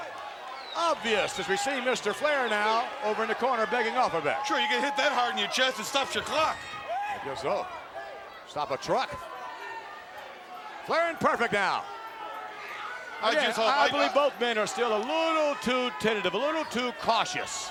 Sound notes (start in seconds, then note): none